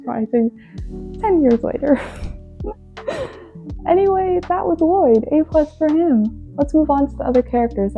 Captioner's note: laughs